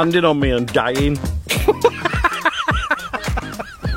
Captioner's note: laughing